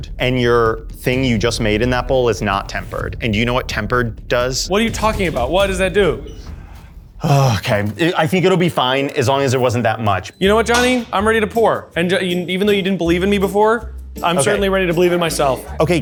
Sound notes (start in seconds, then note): 7.2 sighs